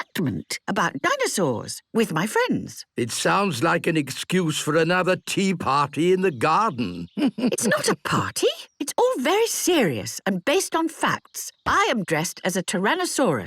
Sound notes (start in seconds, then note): 6.6 chuckles